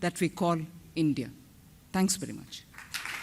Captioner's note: applause